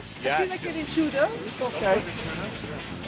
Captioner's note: in English